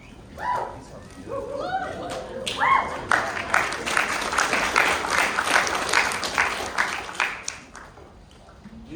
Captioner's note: series of clapping and cheering from Crowd ensue